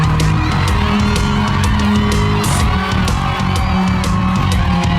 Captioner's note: cheering